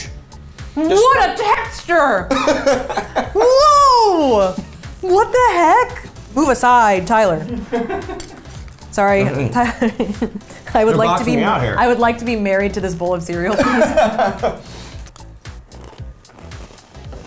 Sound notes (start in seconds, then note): 13.5 laughs